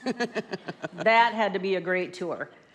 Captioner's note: laughs